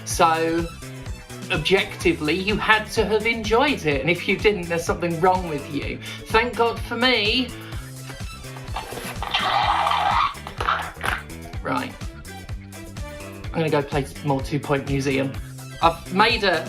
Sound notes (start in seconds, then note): 8.9 scream squelch